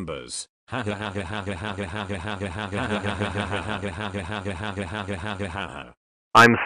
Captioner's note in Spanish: risas